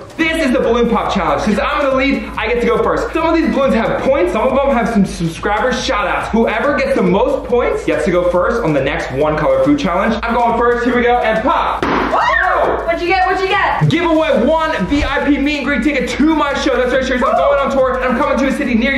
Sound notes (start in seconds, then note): 11.7 balloon pops; 12.1 both shout